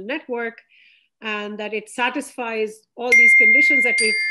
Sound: electronic chiming

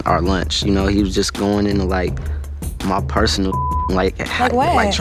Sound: beep

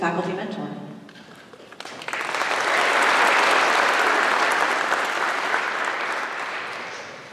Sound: applause

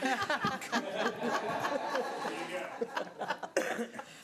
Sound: all laughing

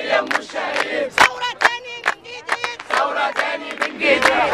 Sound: chants

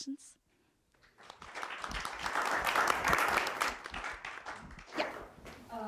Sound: applause

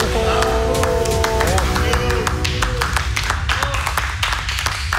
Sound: group applauding and speaking in Spanish

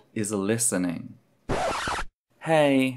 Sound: record scratch

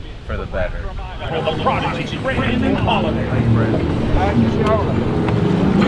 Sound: crowd chatting; motors revving

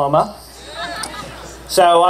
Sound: cheer

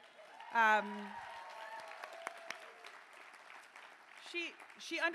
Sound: cheering

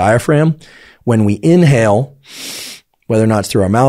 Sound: inhales

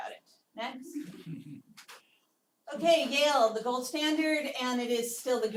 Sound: laugh

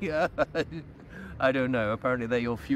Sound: laughing

